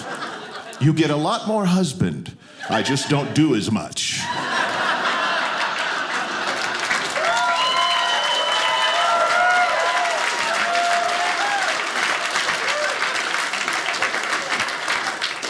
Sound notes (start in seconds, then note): 5.0 audience clapping